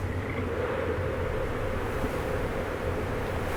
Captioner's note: frog croaks